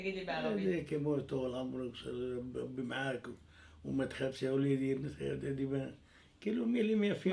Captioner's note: Arabic